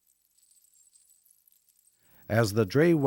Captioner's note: bells tinkling softly